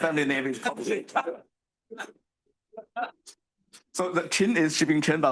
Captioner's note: attendees chuckling